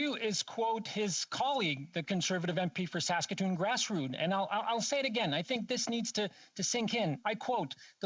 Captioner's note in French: voix de l'interprète